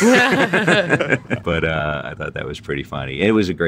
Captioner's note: laughter